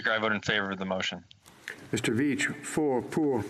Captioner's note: speaking French